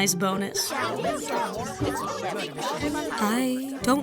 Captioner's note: Uninvitationals shout and argue